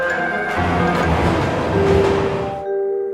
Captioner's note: train whirring; gentle music